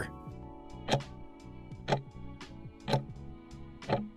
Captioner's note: timer ticking